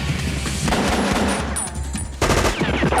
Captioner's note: pistol firing; machine gun firing